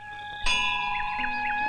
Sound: temple bell rings

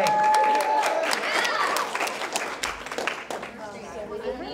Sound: crowd cheers

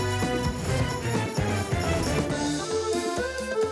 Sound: footsteps

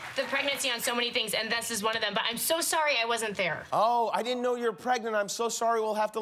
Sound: cheers and applause

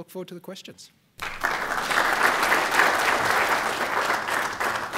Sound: applause

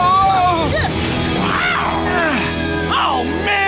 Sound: groaning

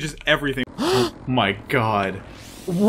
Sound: gasp

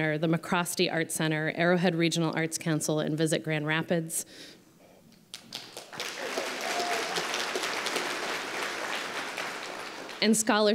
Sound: applause

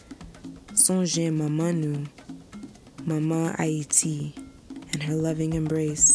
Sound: speaking foreign language

